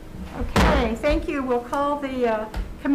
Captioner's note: gavel bangs